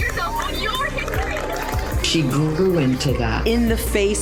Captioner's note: cheering